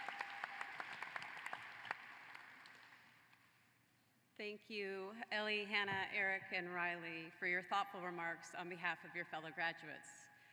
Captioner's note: applause